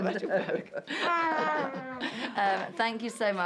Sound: laughter

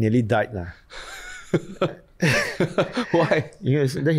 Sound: laughs

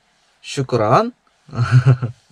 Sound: in Arabic

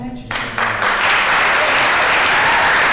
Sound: applause

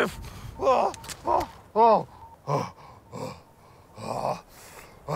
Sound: Vag'duban groaning

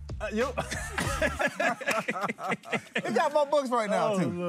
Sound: laughter

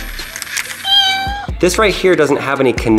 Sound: gears turn; cat meows

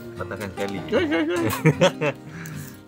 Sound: laugh

